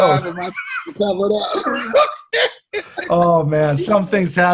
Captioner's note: both laughing